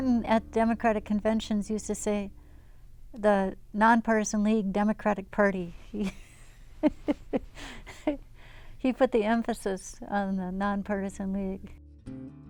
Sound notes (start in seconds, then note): 6.8 laughs